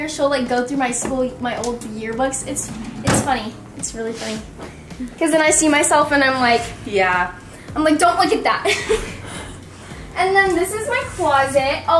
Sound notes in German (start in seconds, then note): 8.6 kichert